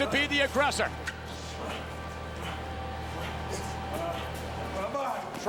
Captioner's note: motor humming